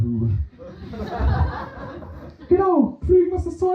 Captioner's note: laughter